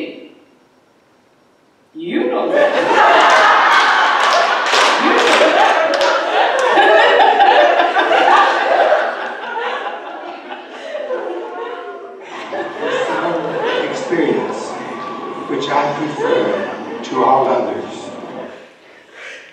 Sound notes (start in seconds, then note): 7.5 audience laughing